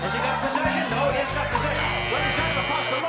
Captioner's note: buzzer